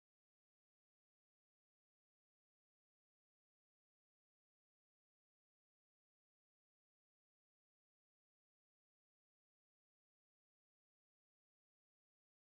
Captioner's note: static